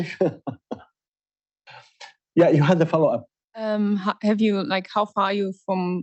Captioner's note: laughs